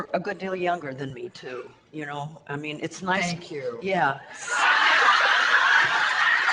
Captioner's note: audience laughter